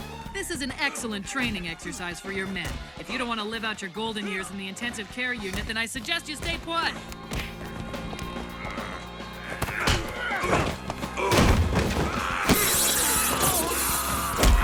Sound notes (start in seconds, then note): 8.2 grunting; 8.3 grumbles